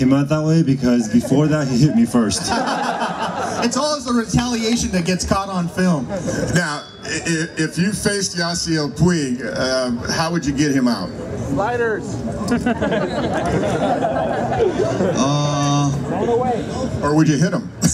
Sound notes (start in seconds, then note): 0.8 crowd laughs; 12.3 crowd laughs